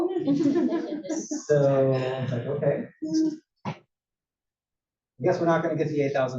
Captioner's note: laugh